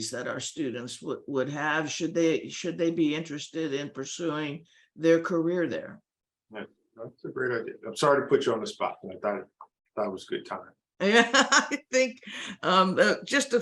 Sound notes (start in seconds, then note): 11.9 laughing